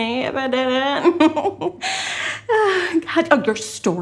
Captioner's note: giggling; sighs